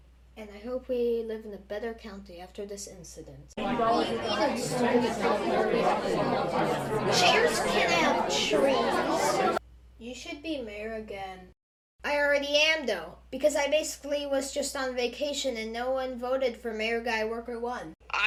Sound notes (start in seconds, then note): 3.6 human talking intensifies